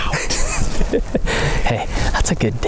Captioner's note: laughing